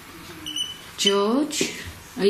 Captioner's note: beeping